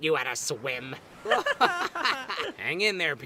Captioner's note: test tube and yin-yang laugh